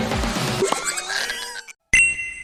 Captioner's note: Kaleer's Cry